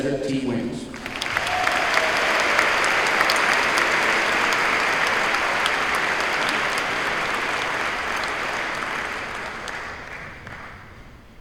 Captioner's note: applause